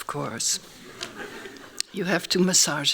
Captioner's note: laughing